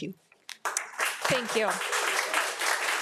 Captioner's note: audience applauding